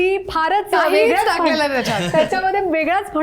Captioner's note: laughs